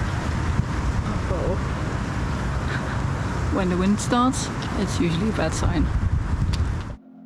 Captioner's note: super loud wind